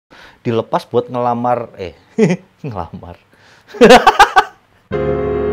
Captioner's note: laughs because of the wrong word